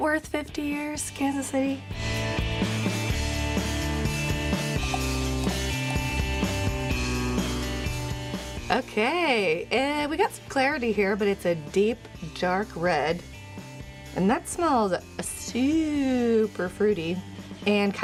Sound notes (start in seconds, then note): 2.7 beer pouring into glass; 2.7 upbeat music